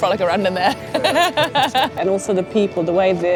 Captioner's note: laughs